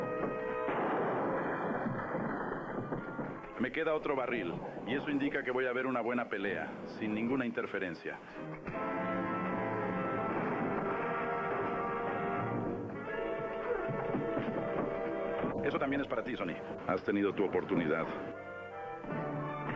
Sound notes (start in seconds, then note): 0.0 gun firing; 9.0 suspenseful music